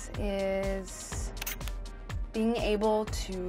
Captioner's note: camera clicks